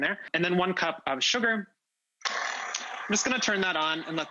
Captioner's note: mixer whirring